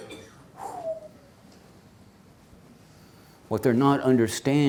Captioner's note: deep exhale